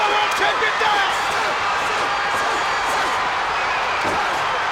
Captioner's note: crowd cheering